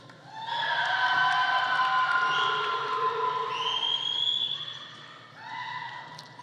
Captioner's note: audience cheering; audience applauding